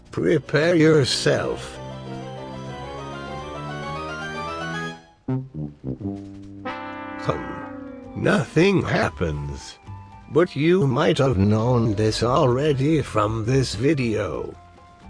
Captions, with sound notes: Prepare yourself. [Legend of Zelda opening chest sound] [The Price is Right fail horn sound] Hum. Nothing happens but you might've known this already from this video